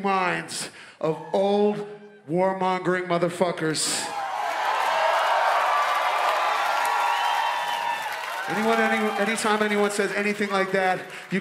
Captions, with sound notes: of old, warmongering motherfuckers. (audience cheers) Anytime anyone says anything like that,